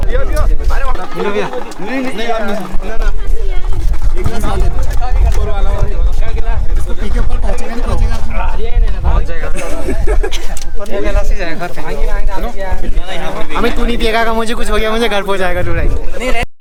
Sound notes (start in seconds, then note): 9.5 laughs